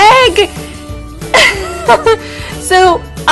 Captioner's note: laugh